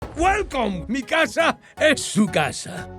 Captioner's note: speaks in Spanish